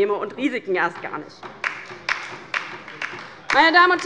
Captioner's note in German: Beifall bei der LINKEN